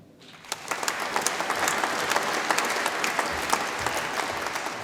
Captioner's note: audience applauds